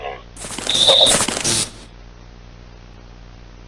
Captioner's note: TV Static